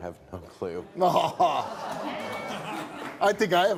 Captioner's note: laughing